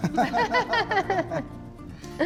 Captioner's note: laughter